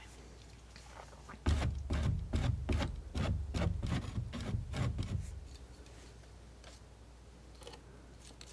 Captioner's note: scratching